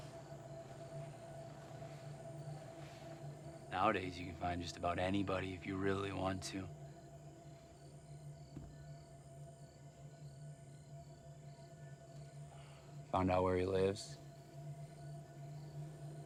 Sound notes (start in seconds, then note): 0.0 tense music; 0.2 crickets chirping; 7.3 crickets chirping; 7.3 tense music